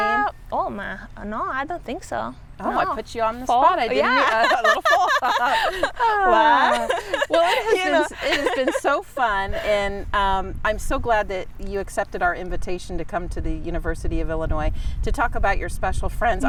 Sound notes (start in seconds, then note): 3.9 laughing